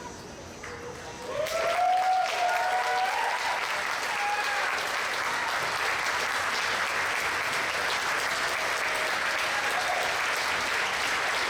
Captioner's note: applause